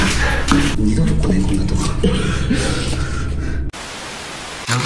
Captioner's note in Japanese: 苦笑